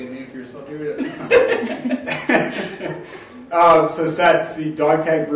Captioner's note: laughs